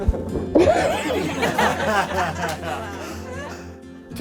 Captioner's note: laughing